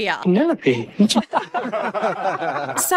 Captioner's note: laughing